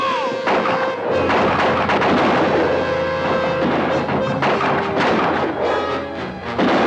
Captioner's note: guns fire; dramatic orchestral music